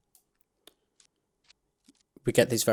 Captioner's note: A few soft light crackles